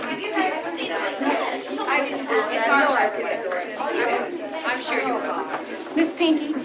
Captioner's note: chattering; chattering Continues